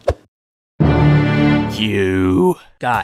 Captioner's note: menacing sound